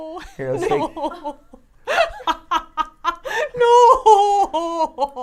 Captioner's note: laugh